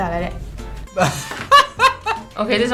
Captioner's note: laughs